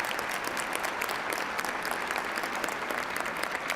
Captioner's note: applause